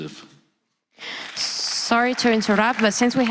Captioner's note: applause